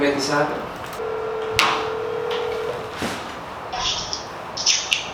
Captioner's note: phone rings